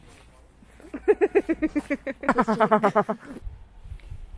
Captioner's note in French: rire